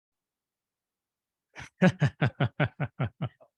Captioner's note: chuckling